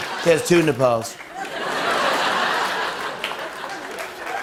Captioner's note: laughter